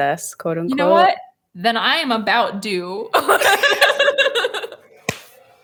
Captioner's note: laughs